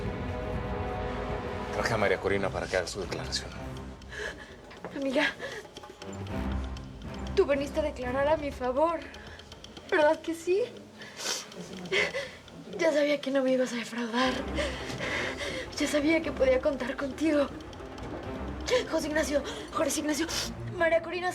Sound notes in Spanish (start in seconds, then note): 12.6 Sollozos